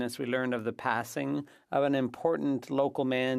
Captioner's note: speaking French